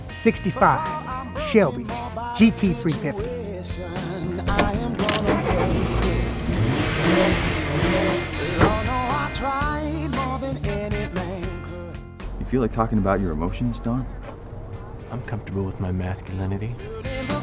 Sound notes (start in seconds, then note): 4.1 sounds of door opening and car starting